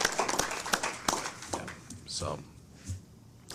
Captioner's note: applause